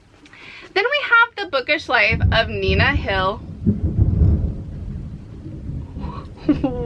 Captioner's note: very loud thunderclap